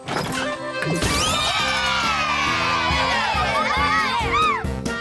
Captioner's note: cheers; music and chatter